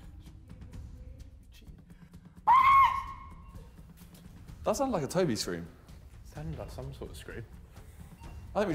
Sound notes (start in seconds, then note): 2.4 Tobi screams